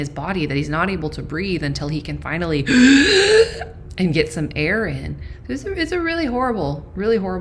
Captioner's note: gasp